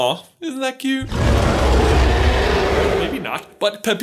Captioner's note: Pepita Roars